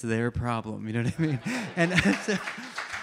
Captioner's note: audience members applaud; audience member laughs